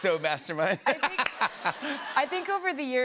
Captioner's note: laughter